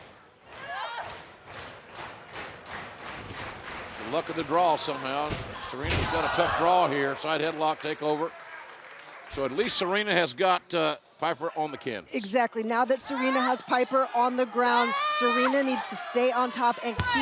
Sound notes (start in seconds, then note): 4.5 clapping